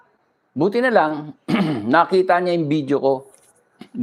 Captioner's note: clears throat